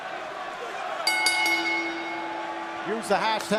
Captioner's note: bell ringing